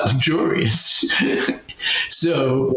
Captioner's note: laughs